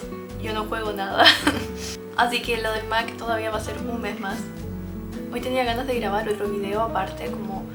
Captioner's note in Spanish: risas